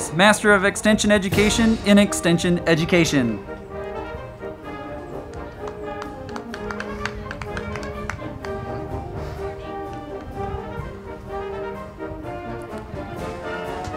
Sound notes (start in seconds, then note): 4.4 band music; 5.2 crowd clapping